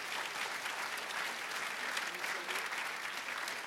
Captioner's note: applause